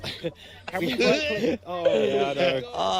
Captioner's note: sputter-laughs; mimics vomiting noise